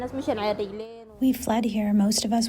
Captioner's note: through translator